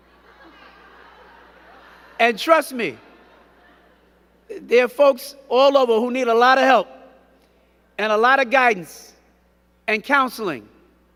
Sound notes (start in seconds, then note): 0.0 crowd chattering and giggling